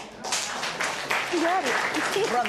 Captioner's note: applause